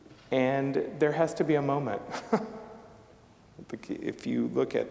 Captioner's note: chuckling